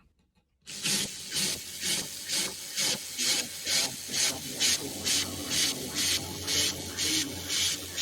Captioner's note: loud noise of clockwork toys